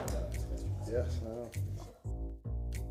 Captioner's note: sounding gavel